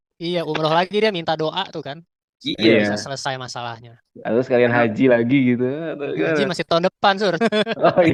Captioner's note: laughs